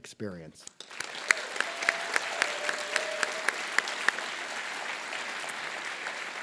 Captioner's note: applause